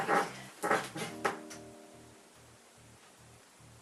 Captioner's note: bed makes cracking sound